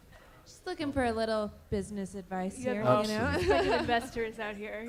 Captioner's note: laughter